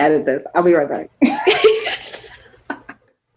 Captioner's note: they laugh